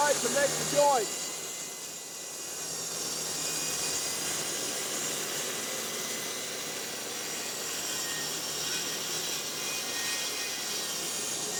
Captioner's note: sawing